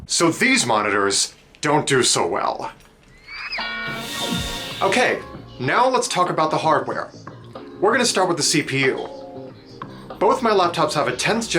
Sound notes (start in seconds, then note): 3.5 goofy arse cartoon crash; 3.8 swoosh